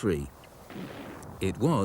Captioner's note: gun bangs